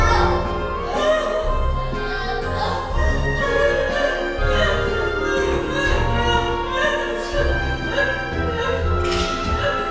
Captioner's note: moaning; sobbing